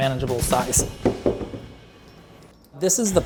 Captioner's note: ravioli bounces on the floor